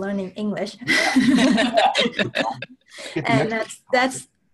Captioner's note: laughter